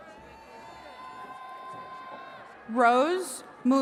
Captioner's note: attendees cheering